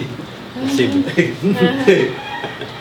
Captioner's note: laughing